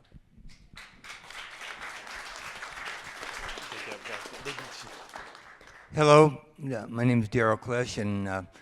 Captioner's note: applause